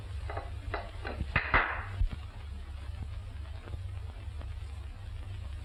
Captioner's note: clapping